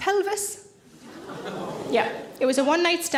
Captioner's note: audience groan